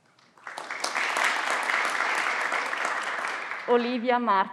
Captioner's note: everyone claps